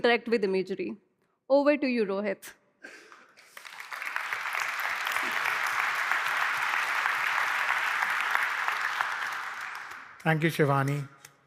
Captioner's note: applause